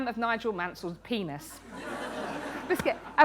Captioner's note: laughter